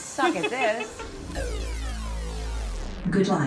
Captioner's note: laser beams